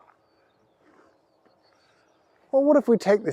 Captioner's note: birdsong